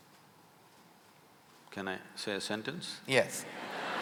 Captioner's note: laughter/Applause